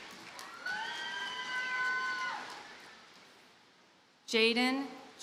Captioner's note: audience cheers and applauds